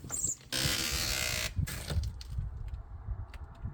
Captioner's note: door Squeaks